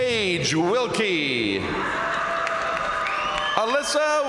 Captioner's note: crowd cheering; crowd applauding